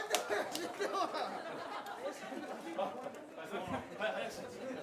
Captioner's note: audience laughing for not using honorifics